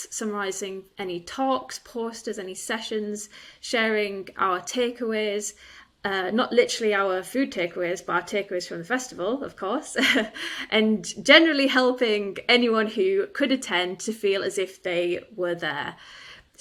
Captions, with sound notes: summarizing any talks, posters, any sessions, sharing our takeaways, not literally our food takeaways, but our takeaways from the festival, of course, (chuckles) and generally helping anyone who couldn't attend to feel as if they were there.